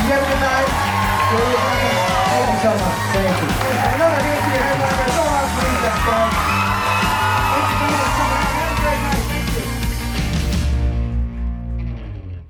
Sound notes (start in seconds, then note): 6.5 audience cheering; 9.7 bright music